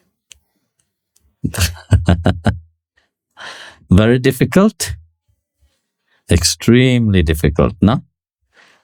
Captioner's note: laughing